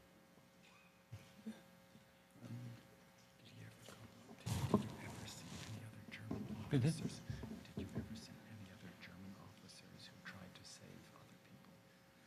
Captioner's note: whispering